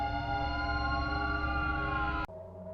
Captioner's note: slow siren noise